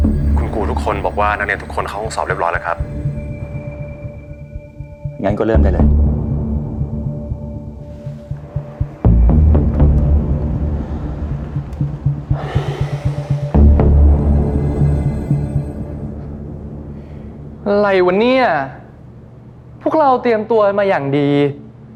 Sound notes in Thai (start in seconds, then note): 12.2 เสียงปอมถอนหายใจ